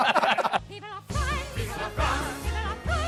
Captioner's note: laughter